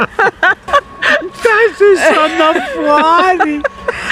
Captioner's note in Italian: Risate